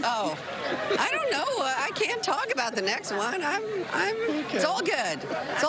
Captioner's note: laughter